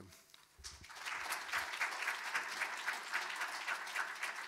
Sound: audience applauding

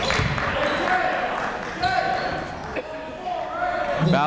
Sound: chatter

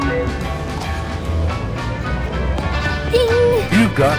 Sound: scanner beeps

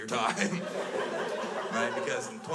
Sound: crowd laughs

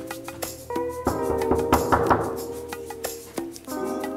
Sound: guest knocking

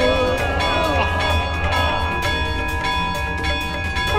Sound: clanging; conch blows

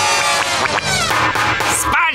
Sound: knocking

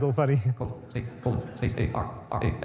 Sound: audience laughs

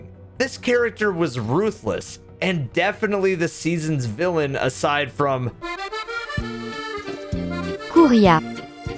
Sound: french voice

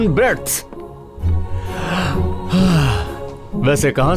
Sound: sighing

